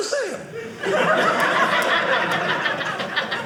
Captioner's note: audience laughing